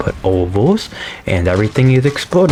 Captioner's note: inhales Oxygen